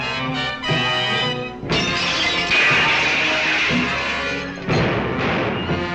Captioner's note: dramatic music continues; glass breaking; dramatic music continues; gun firing